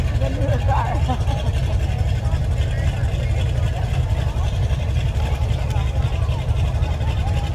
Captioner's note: person laughs; revving continues